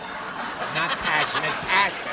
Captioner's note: laughter